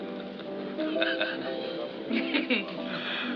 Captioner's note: laughs